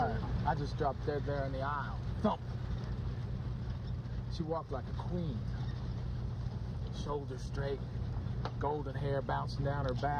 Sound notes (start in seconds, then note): none